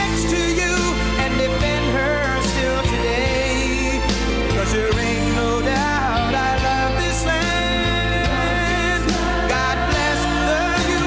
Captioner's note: audience chants "USA"